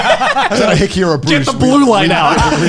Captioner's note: laughing